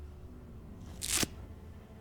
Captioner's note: tape ripping